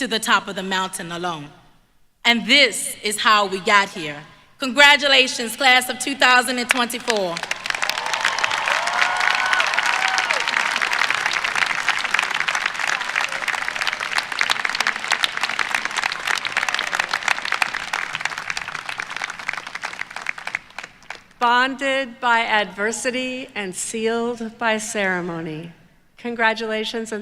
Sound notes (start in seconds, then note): 7.0 applause